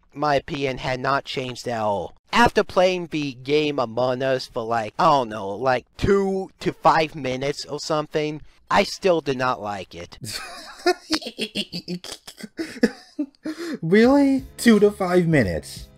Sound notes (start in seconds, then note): 10.2 laughs